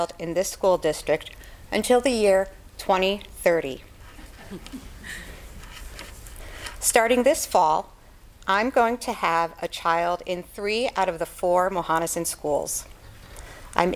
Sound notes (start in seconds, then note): 4.1 background laughter